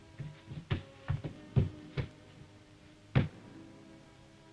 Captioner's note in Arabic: جدار يطرق